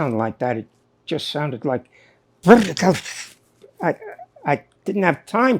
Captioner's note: imitates distorted message